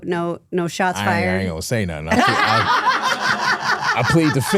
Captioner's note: hosts laughing